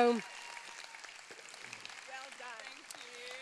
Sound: cheers

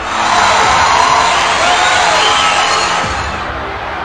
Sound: cheering

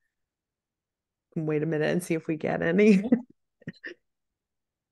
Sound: chuckles

